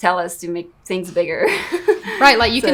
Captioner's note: laughs